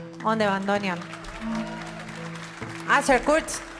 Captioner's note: audience applauding